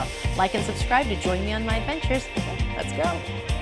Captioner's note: none